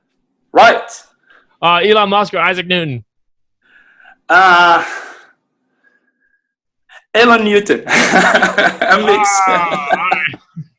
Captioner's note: laughs